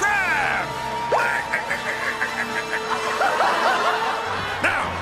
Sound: laughing and cheering

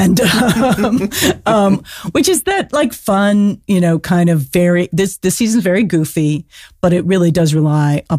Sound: laughs

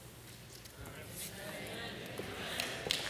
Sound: applause

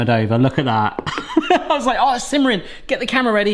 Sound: laughs

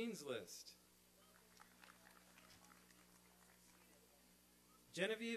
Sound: applause and cheering

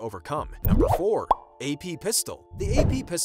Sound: bubble popping; whooshing

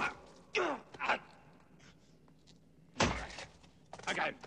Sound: grunting; gasping; hitting

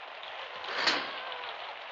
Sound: door closes

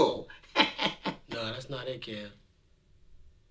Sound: laughing

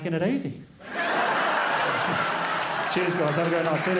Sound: crowd laughs

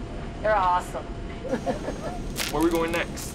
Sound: laughs

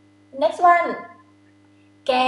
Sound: talking in foreign language

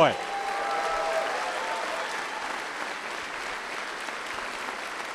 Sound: applause and cheering

